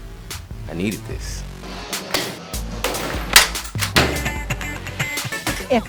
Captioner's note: smashing